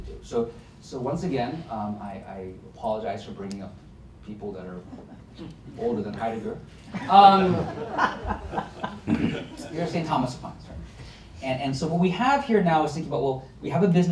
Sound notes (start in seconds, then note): 6.9 laughter